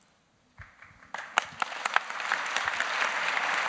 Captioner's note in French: Applaudissements